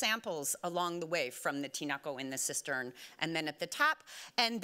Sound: speaking Spanish

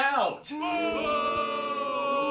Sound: crowd

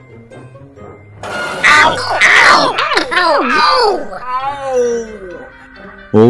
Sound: multiple Ows

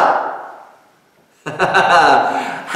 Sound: laughter

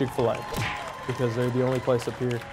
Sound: crowd cheering

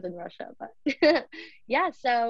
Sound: laughs

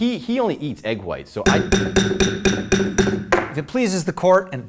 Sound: gavel banging

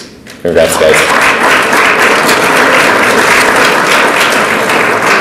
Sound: audience applauds

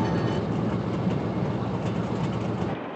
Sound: clanging stops

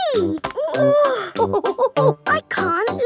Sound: chuckles; straining

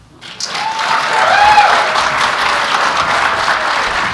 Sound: applause

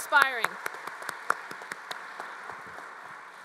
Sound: applause

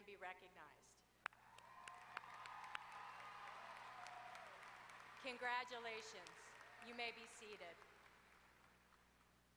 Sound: applause

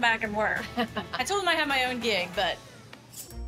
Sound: laughs

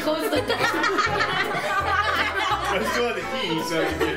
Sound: laughing

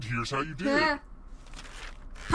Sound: makes a distressed noise

